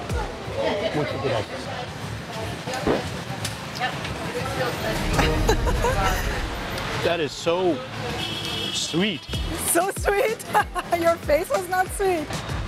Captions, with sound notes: Thank you very much [in Spanish] That is so... - Sweet. - So sweet? Your face was not sweet.